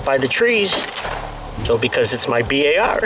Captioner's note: gunshot